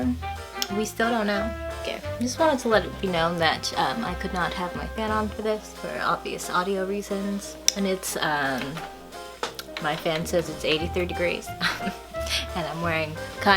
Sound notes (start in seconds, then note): 9.4 smacks lips; 9.4 clicking buttons; 11.5 scoffs